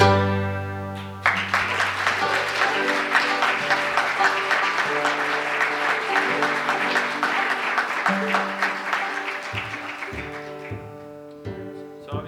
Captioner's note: applause